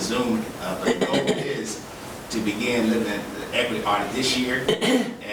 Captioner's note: woman coughing